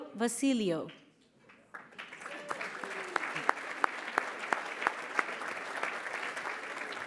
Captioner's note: applause